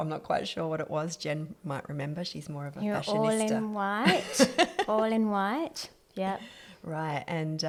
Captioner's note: laughs